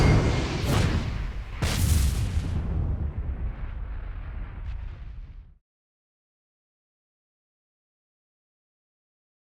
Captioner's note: whooshing sounds